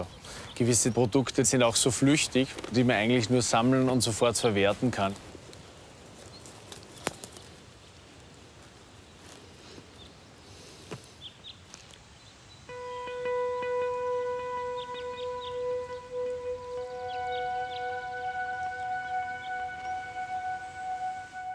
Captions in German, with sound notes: Also gewisse Produkte sind auch so flüchtig, die man eigentlich nur sammeln und sofort verwerten kann. (Vogelzwitschern) (Langsame Musik)